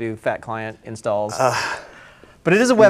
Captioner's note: sighs